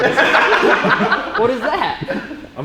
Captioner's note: laughs